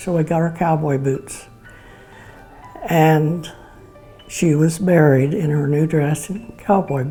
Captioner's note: tearful